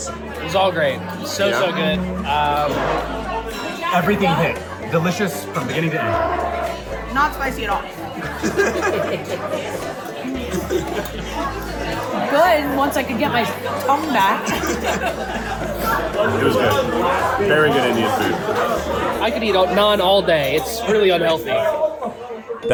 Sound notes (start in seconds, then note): 8.9 laughs; 15.9 laughs